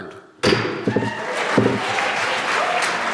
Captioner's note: applause